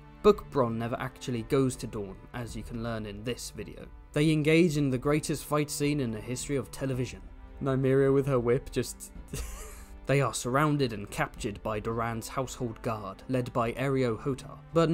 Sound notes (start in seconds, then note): 9.3 laughs